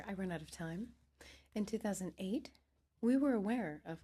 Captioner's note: speaking French